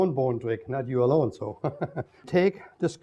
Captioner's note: chuckles